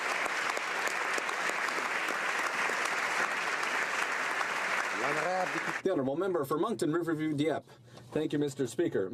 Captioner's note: applause